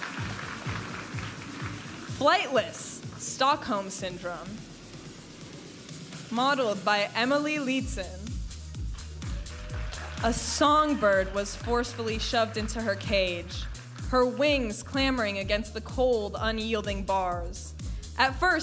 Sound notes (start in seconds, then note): 0.1 upbeat music; 5.5 upbeat music; 8.9 audience applauding and cheering